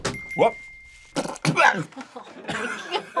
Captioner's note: spits